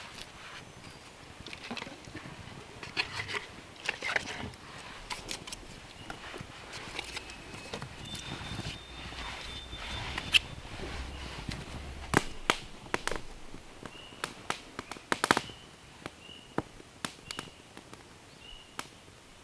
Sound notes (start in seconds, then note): 12.3 fire crackling